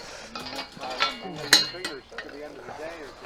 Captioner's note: rail clanks